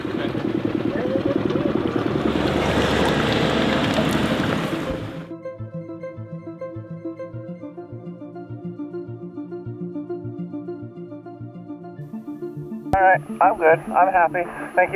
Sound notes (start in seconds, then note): 0.2 indistinct chatters; 2.7 boat engine vibrating; 5.2 light upbeat music